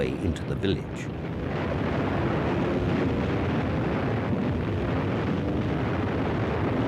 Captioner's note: plane engine roars; explosions